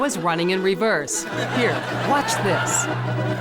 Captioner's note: audience laughs